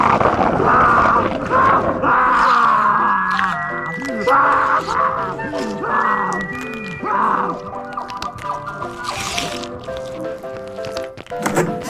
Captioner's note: more carnage sounds